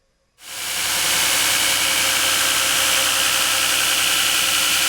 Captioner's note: grinding sound